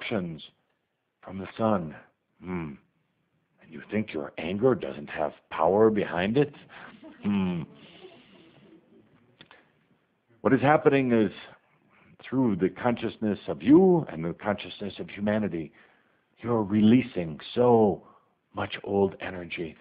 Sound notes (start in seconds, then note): 6.6 some laughter